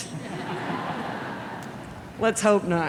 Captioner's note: audience laughs